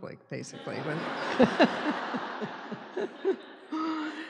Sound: laughing

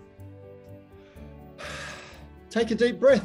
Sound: takes deep breath

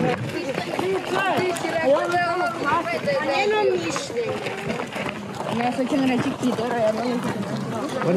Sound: Serbian kids and teachers speaking in Serbian

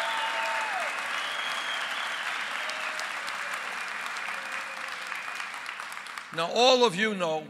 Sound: applause

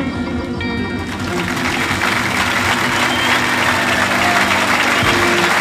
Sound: audience applauds

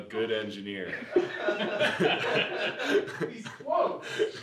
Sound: laughing

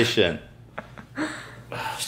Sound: laughing

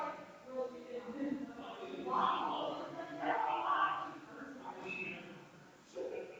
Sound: people chattering distantly continues

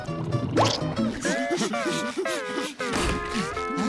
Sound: panting

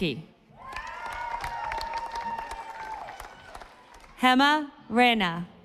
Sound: audience applauding

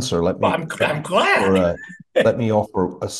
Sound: laugh

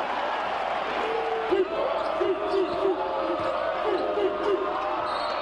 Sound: applause; audience members barking; whistle blows

